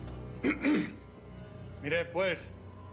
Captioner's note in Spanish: carraspea